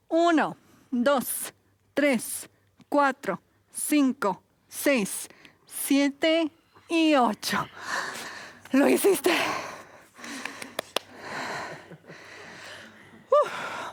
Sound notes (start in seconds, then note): 7.7 exhala; 10.2 aplausos